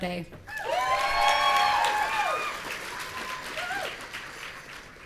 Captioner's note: audience cheering